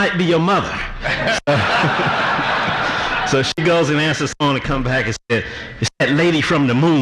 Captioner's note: audience laughter